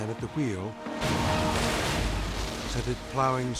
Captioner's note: bus crashing